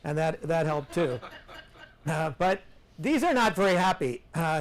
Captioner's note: students laugh